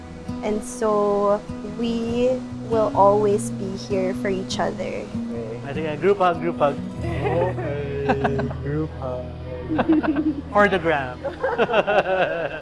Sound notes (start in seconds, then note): 7.7 laughs; 11.3 laughs